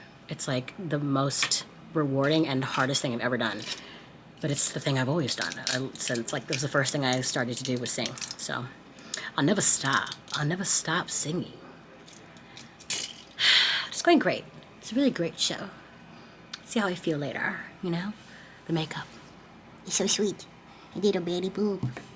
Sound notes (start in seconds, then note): 13.8 sighs